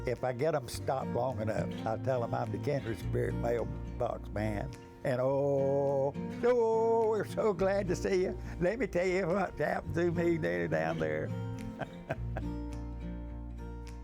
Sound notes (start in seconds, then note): 11.6 chuckles